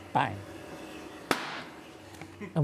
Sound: bang

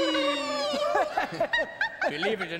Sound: laughing

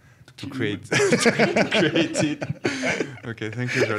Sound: laughing

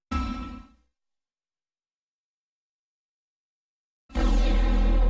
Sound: silence; analog synthesizer music plays

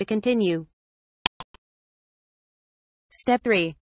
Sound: click sound

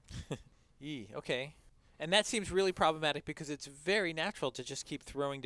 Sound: laugh

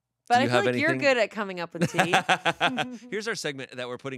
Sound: laughing

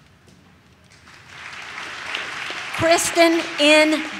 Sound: audience claps

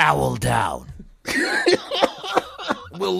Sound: wheeze

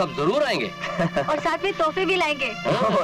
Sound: laughs

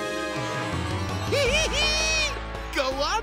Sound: laughs

